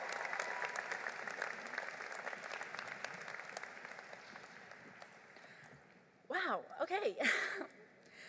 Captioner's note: applause